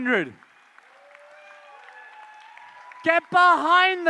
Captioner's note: applause